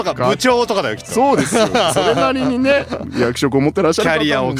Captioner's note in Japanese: 笑い